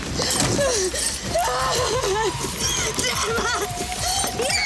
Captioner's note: Jodie sobbing; car door thuds; Jodie crying